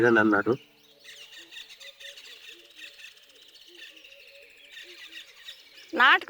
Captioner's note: birds chirping, wind rustling leaves